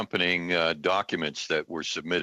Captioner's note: alternate language spoken